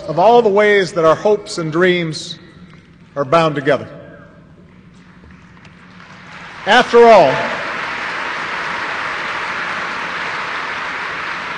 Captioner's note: applause